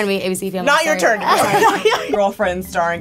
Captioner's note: laughing